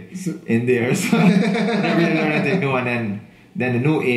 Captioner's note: laughing